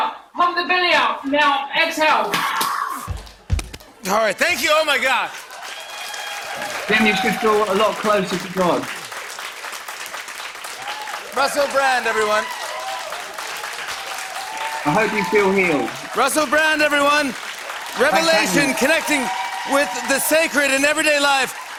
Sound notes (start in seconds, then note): 2.3 exhales sharply; 13.0 cheers and applause